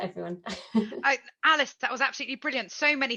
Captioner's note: chuckles